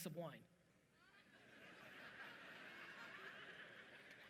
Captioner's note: audience laughing